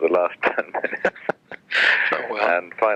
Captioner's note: laughs